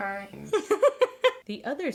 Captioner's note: laughs